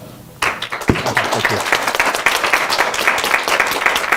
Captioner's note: applause